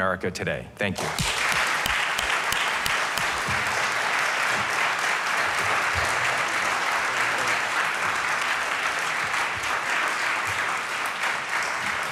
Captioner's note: applause